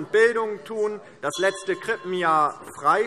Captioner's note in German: Anhaltende Unruhe - Glockenzeichen